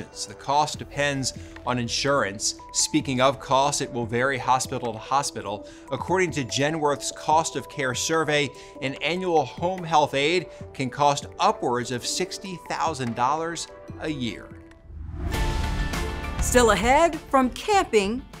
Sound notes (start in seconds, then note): 0.0 soft electronic music; 14.6 exciting music; 14.8 graphics whooshing